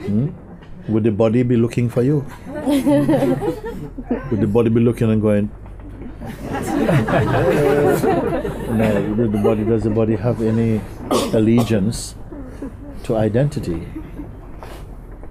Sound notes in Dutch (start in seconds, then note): 2.3 gelach; 5.9 meer gelach